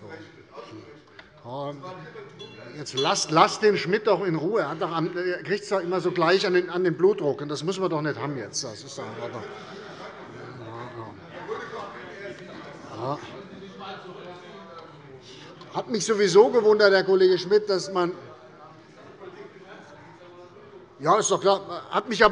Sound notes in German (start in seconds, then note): 10.4 Allgemeine Unruhe